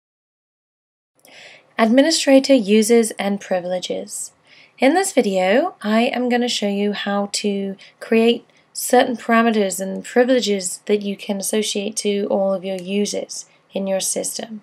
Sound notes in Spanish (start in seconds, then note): 2.2 Voz en off